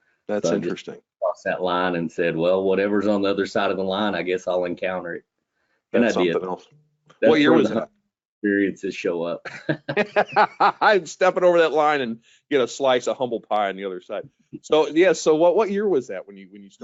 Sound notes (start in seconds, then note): 9.4 chuckling